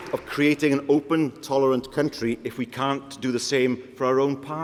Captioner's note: applause